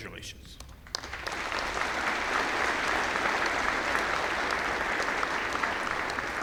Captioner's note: applause